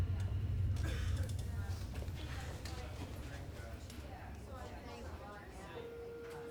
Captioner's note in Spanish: bullicio del lugar